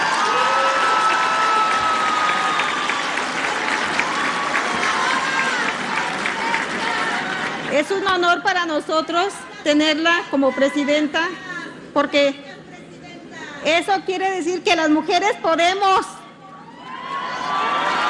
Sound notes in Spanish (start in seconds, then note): 7.6 aplausos